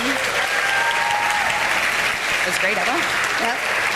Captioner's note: audience applauding